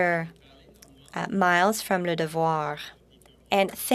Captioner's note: speaking French